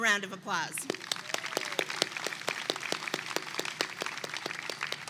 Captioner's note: attendees clap and cheer